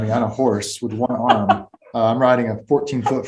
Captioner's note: Rosamund laughing